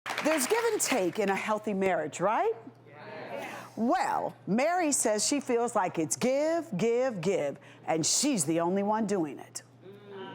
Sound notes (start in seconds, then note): 0.0 audience clapping; 2.9 audience agreeing